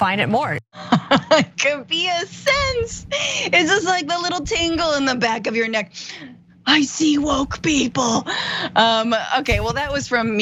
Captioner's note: laugh